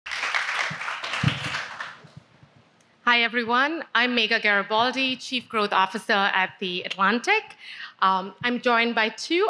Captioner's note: applause